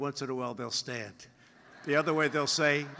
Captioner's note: laughter